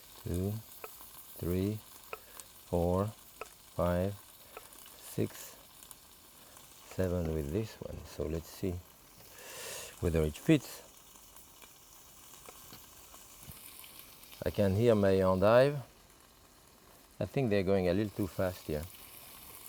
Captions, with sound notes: 2, 3, 4, 5, 6, 7 with this one. So let's see whether it fits. (pan sizzling) I can hear my endive. I think they're going a little too fast here.